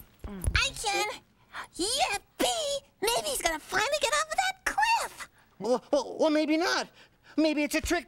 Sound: none

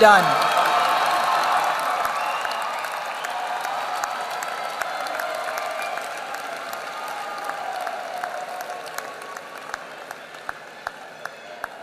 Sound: applause

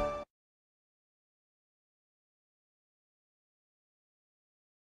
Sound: upbeat orchestral music; silence

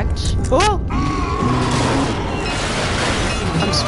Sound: screams &moaning & crashing metal sounds

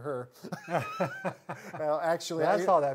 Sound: both laugh

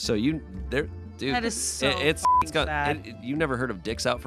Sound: beep

